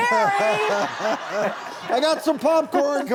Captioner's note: laughing together